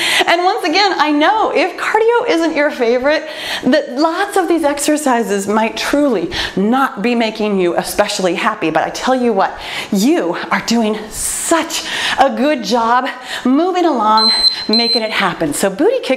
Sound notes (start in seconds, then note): 14.1 timer beeping